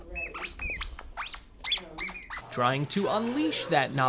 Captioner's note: toy squeaks